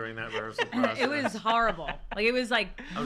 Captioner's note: laughter